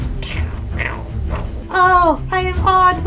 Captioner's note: mimics rat noises